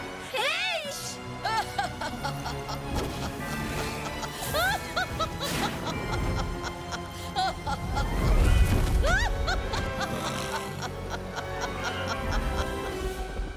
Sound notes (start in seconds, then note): 1.3 laughing; 7.7 stomping; 9.9 roaring; 11.7 Opaline laughing